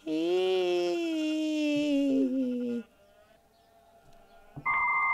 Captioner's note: dial up sounds